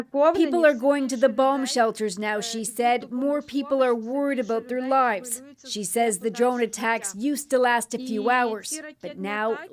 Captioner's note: speaking ukrainian language